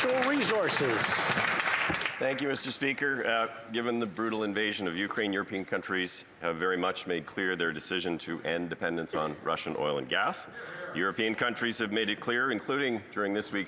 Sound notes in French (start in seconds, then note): 6.2 voix de l'interprète